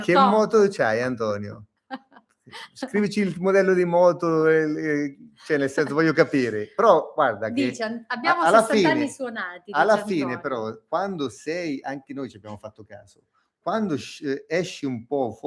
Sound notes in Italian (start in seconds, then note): 1.9 risate